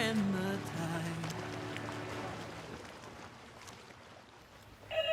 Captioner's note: water sloshing